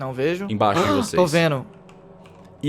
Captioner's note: gasps